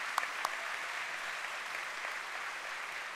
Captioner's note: applause